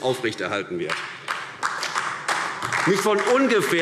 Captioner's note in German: Beifall AfD